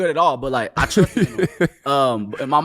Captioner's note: laughing